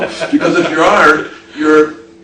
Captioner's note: laughing